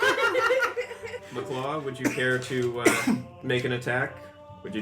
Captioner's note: laughter